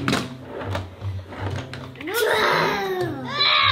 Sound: plastic toys slide and crash; children growl

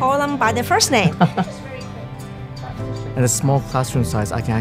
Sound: chuckling

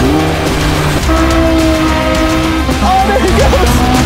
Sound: engine roaring

